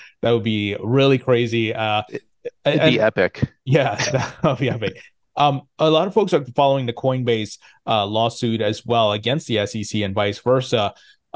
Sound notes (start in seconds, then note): 3.6 laughs